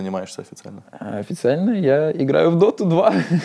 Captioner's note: laughs